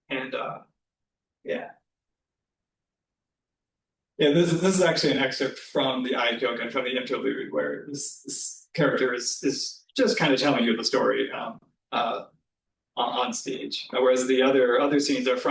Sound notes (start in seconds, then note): 6.1 japanese